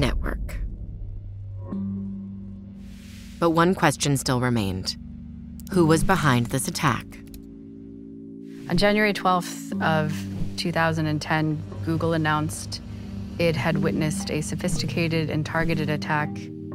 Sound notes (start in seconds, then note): 0.2 pensive music; 6.9 keys typing